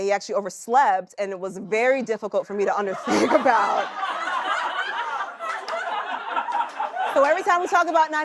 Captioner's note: laughter